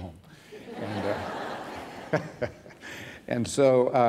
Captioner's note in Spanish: risas